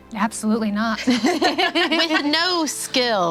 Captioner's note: laughing